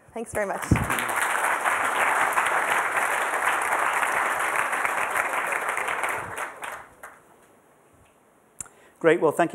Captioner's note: applause